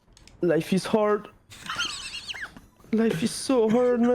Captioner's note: laughs